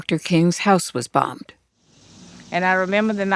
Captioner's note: soundbite of archived recording